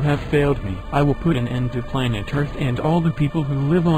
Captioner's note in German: Er spricht weiter auf Englisch